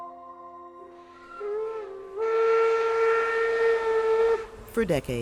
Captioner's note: train whistle blows